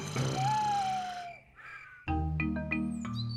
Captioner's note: owl hoots